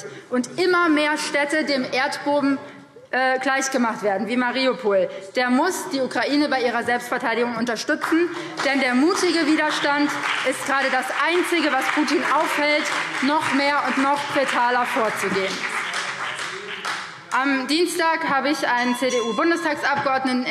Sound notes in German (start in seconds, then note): 8.1 Beifall BÜNDNIS 90/DIE GRÜNEN und CDU